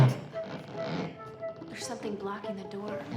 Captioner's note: rubber rubbing